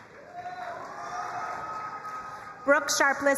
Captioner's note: crowd cheering and applauding